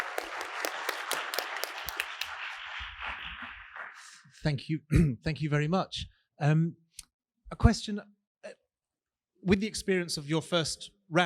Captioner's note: applause